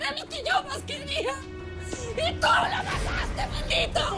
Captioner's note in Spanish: Sollozos